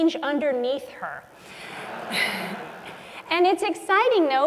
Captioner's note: laugh